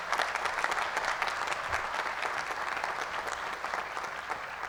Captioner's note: applause